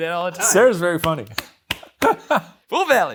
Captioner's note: hand thudding; laughing